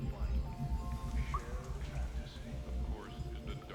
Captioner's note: wind chimes jangling; water dripping